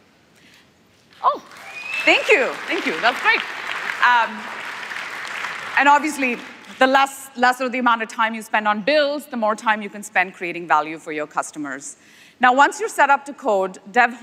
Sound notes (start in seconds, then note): 6.4 applause